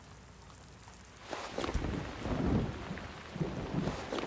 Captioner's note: thunder rumbling